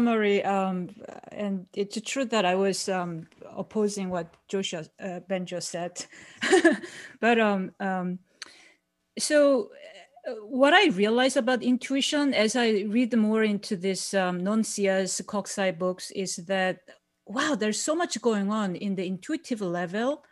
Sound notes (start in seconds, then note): 6.7 laughs